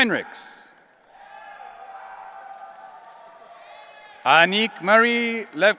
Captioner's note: audience cheering